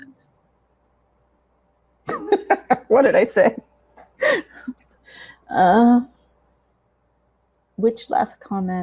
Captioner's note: laughing